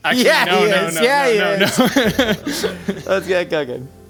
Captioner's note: laughing